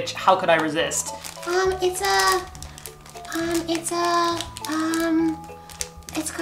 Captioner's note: in high squeaky voice